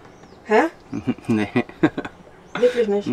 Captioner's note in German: lacht